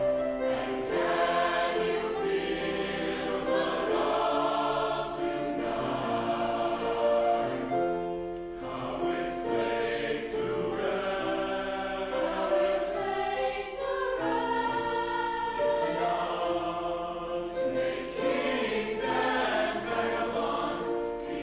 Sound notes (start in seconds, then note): 12.1 high voices; 17.7 whole choir